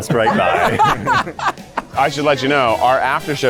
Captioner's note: laughter